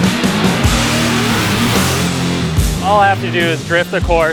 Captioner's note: car engines roar; dramatic music